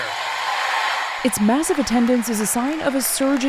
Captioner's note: cheering